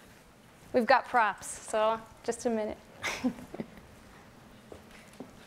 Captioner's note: laughs